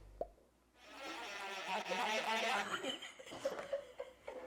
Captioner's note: mortar whirring; laughing